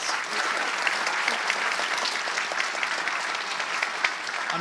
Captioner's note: applause